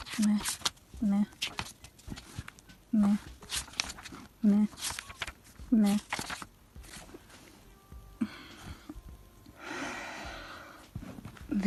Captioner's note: deep breath